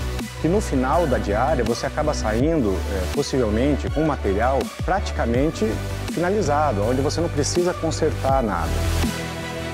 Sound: speaking portuguese

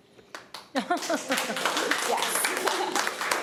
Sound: applause

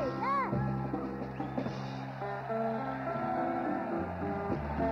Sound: whistling and hollers

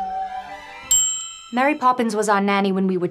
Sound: continued operatic vocalizing; ding

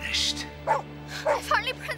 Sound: barking

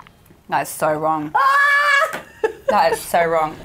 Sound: screaming

